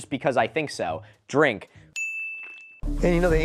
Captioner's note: ding